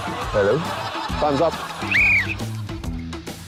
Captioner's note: blows whistle